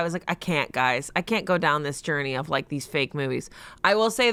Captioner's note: none